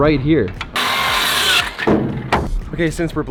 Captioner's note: saw squeals and grinds